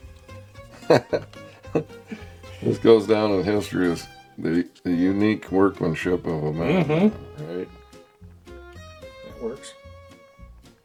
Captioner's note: laughs